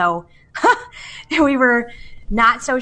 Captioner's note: laughs